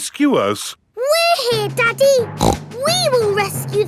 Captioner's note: snorts